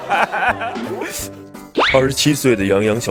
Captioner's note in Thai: ขำจนตกขอบจอ